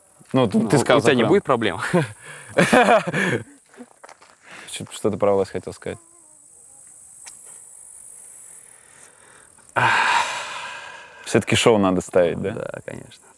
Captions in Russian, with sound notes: — Ну, это не будет проблемой? (смеется) — Что ты про власть хотел сказать? (шумно выдыхает) — Все-таки шоу надо ставить? — Да, конечно.